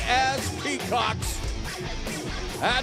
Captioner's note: crowd cheering